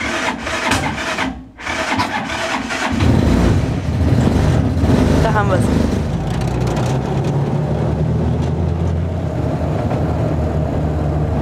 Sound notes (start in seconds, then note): 0.1 engine sputtering; 3.3 engine starts